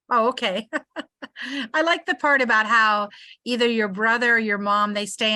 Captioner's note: laughs